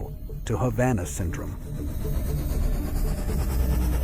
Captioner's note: engine revving